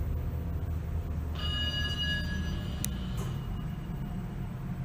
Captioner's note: ding